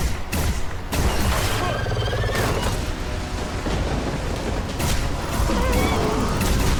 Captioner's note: dramatic music; creature roaring; gun firing